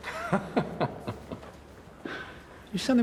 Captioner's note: Chuck laughs